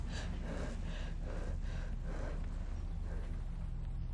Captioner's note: Andrea panting